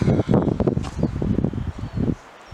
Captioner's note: firm pat